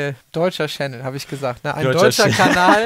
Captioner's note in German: lacht